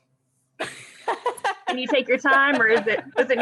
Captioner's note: laughs